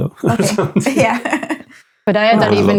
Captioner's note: laughing